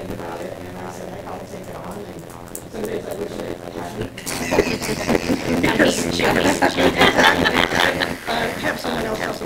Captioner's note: laughter